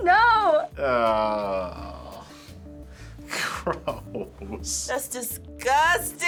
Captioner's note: groans; gasps